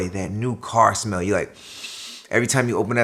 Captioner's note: inhaling